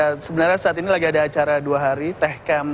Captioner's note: non-english speech